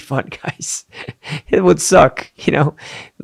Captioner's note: chuckles